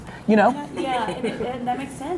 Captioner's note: laughing